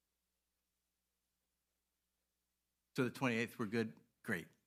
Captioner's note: audio cuts out